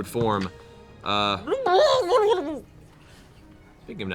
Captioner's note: burbling